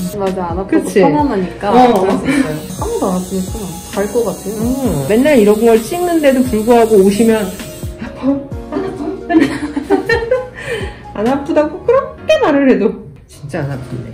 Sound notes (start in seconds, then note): 8.7 laugh